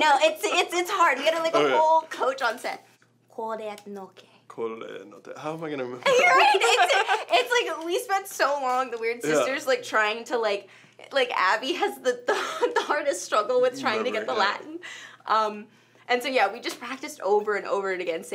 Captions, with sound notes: I know it's hard we had like a whole coach on set. Quod eat noce. - Quod eat, how am I going to remember that? (both laugh) - Right, we spent so long, the Weird Sisters trying to like, like Abby has the hardest struggle with trying to get the Latin. And so yeah we just practiced over and over again